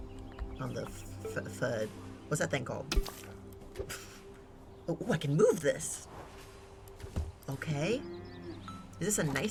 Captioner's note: laughs